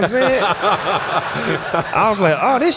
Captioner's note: laughter